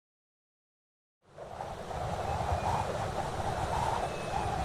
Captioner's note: wind howling